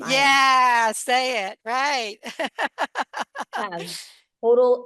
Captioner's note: laughs